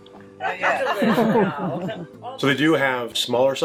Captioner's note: laughing